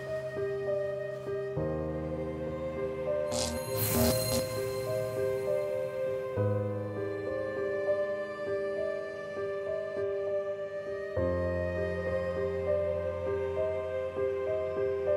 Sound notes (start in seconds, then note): none